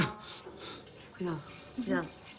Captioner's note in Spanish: Tintineo de llaves